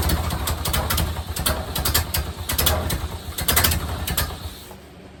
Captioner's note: engine cranks 1 revolution and fires; engine sputters and idles; engine dies